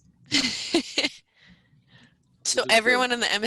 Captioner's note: teammates laughing